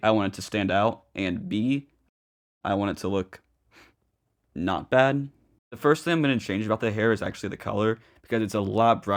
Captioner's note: sniff